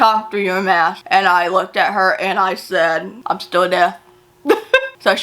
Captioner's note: chuckles